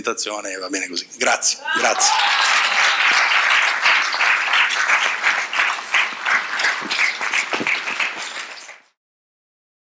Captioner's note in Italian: Applauso